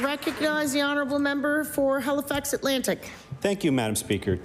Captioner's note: applause